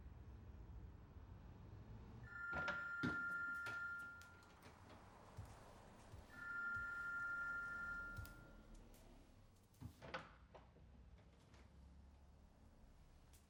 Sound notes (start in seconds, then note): 3.5 phone ringing